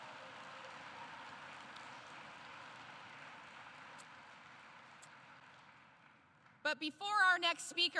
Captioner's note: applause